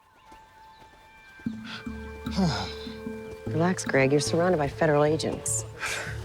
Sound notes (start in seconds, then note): 2.3 sighs